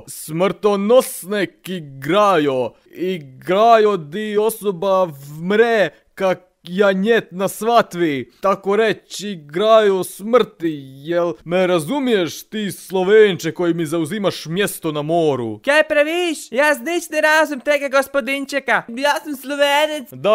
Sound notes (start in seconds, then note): 0.1 tries to speak slovenian accent